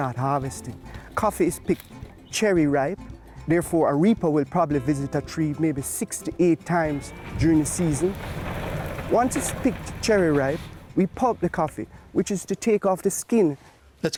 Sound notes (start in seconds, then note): 6.8 sound of engine